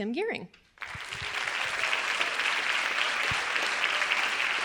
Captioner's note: audience applauding